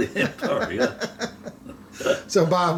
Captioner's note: laughing